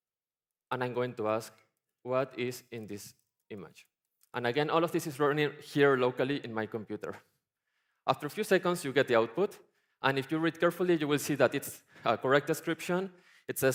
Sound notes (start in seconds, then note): none